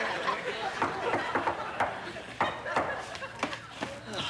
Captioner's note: knocking